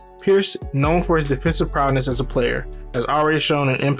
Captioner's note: voiceover